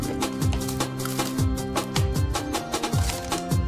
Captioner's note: rifling sounds